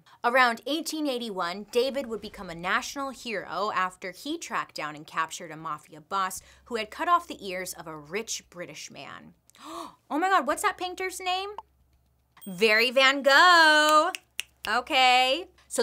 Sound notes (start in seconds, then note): 9.5 gasps